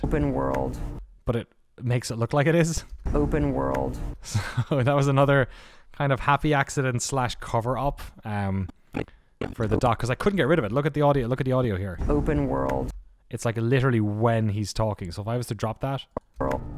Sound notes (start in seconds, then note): 4.2 slap; 4.5 laughs; 16.0 distortion